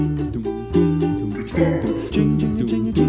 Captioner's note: low voice